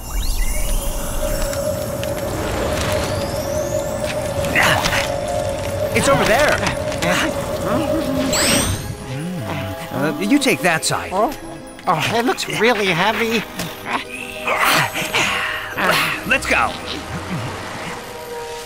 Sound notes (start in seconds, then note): 4.5 forklift grunts; 14.1 both forklifts grunt